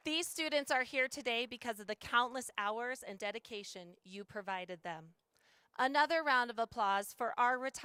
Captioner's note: applause